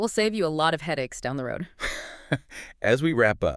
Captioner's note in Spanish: risas